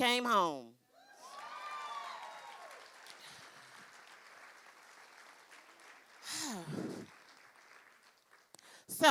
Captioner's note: cheering